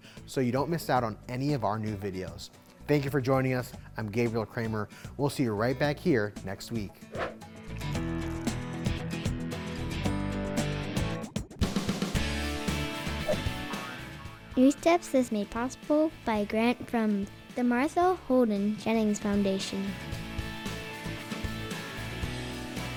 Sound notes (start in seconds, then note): 7.1 graphics whooshing; 8.1 upbeat music; 13.3 graphics boinging; 13.3 graphics whooshing; 20.2 upbeat music